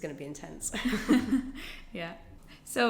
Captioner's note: both laugh